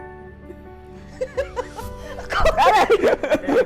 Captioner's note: giggle